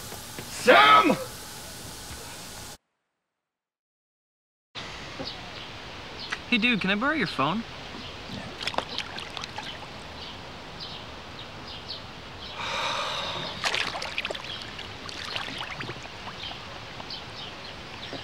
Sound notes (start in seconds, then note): 12.5 sigh